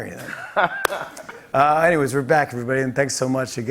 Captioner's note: laughs